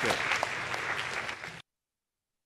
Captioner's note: applause